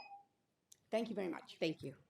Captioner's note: tone